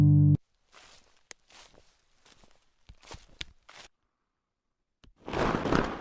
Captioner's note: walking through leaves; wings flapping